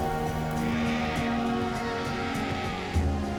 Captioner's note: vultures screeching